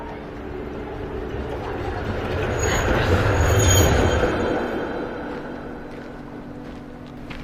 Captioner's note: train goes